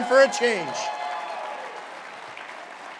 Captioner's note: cheering